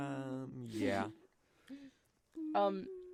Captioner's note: humming